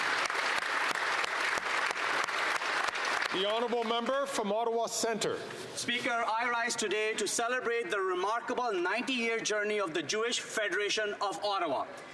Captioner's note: some Applause